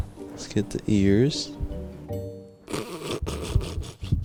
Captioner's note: laughs